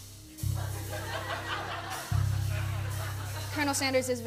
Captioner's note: laughter